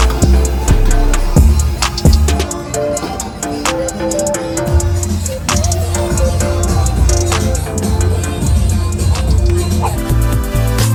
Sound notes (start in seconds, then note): 1.5 bar Music; 1.5 wok and utensil sound; 10.4 closing Music